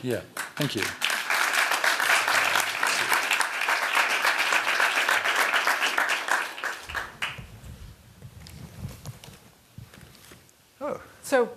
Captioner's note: applause